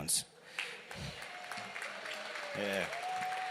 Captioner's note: applause